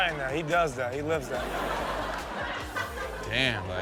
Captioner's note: audience laughing